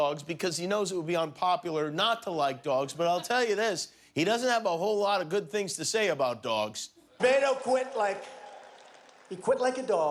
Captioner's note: cheers and applause